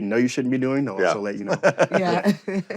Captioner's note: chuckles